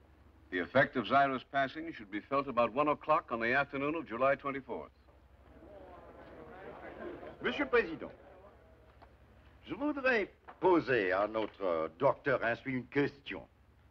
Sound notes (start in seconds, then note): 5.4 murmuring; 7.1 speaking French